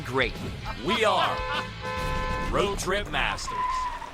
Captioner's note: horn honking